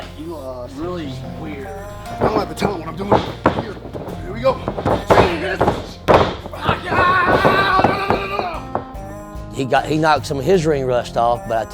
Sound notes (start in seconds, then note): 1.6 thudding sound; 4.9 thudding sound; 5.7 grunting; 6.5 thudding sound; 7.3 screaming; 8.8 instrumental music playing